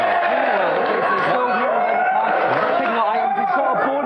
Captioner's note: audience enthusiasm